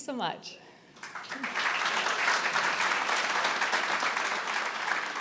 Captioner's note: audience applauding